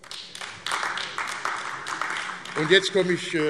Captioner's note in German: Beifall AfD